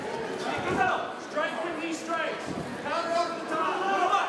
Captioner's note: crowd cheering